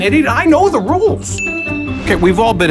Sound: ding

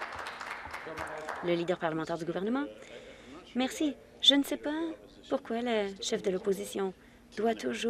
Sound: applause

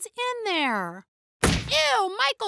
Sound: kicking door

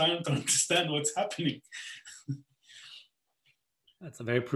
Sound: chuckling

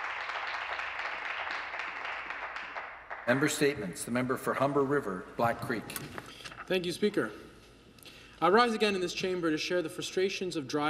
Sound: applause

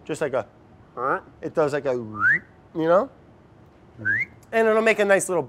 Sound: whistling

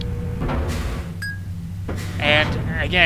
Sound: ding

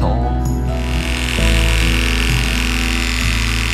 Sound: buzzing

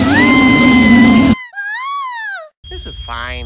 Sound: and more screaming; princess screaming

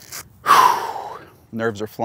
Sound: exhales

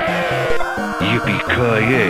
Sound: death noise

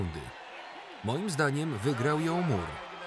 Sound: audience cheering

